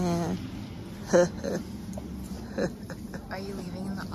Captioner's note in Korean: ㅎ ㅎ... ㅎ ㅎㅎㅎ